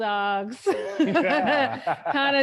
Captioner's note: laughing